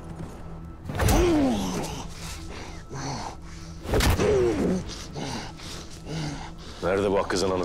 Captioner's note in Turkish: Vurma ve İnleme Sesleri